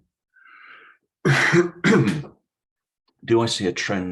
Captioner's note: coughs